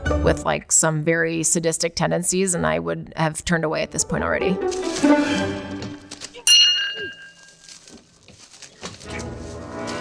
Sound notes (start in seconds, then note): 0.0 playful music; 6.4 bell dings